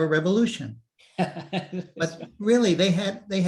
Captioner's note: laughs